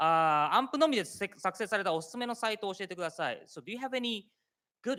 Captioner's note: speaking japanese